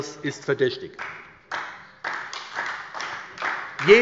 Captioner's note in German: Beifall bei der SPD